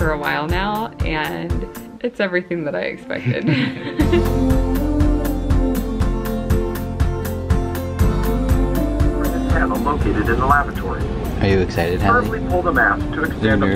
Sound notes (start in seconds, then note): 3.2 laugh; 4.6 upbeat music